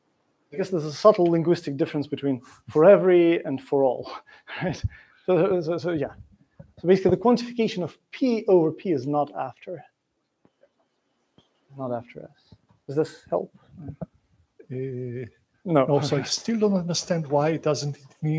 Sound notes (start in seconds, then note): 4.1 laughs